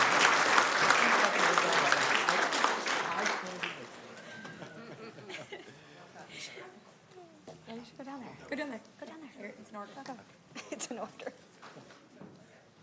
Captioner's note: applause